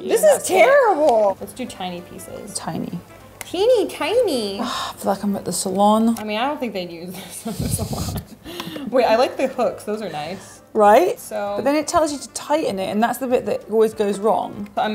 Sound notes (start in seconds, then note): 7.4 laughter